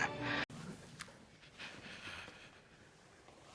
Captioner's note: Squish; heavy breathing